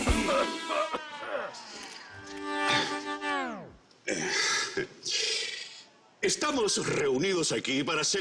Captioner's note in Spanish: Tosidos